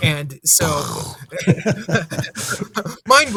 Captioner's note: laughing